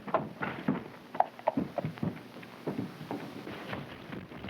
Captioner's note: hooves clopping